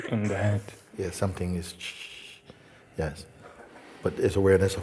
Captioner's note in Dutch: maakt geluid van storing